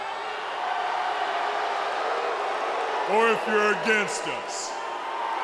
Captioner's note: crowd cheering